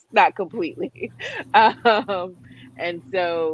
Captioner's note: laughs